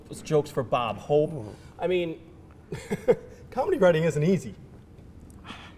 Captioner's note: chuckling